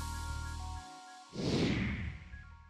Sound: woosh

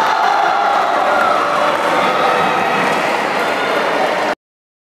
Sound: applause

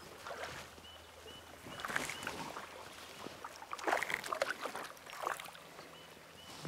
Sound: splashing

